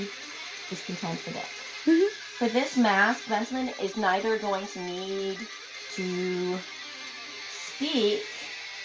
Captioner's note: me giggling again